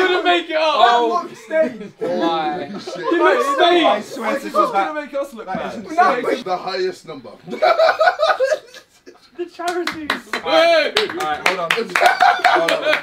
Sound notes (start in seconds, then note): 7.4 laughing; 9.5 all clapping